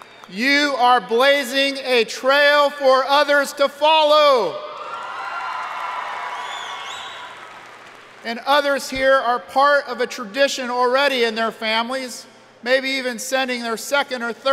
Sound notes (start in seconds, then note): 4.8 audience cheering